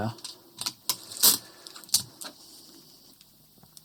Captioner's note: tape scraping